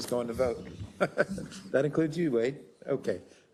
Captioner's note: laugh